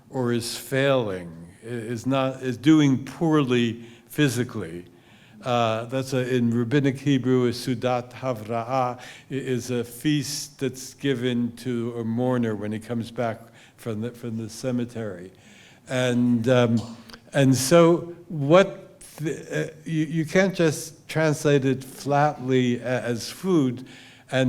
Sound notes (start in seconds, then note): 8.5 hebrew